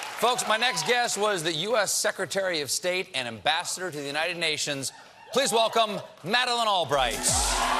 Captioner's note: cheers and applause